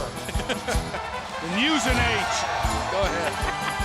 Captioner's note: laugh